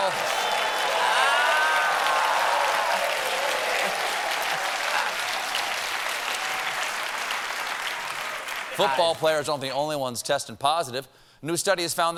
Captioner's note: cheers and applause